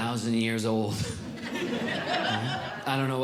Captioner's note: audience Laughing